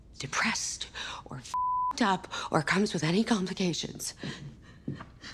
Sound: beep

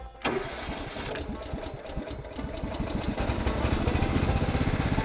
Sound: mower starts and throttles up

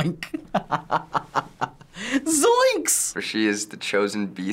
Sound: laughs

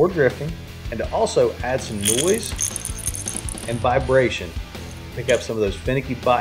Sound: bait rattles

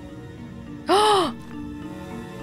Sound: gasps

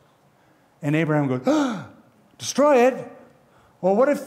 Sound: gasps

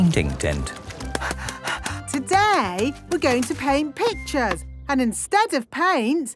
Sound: panting

